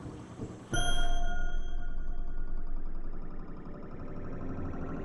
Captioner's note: bell chiming